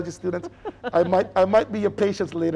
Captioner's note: laughing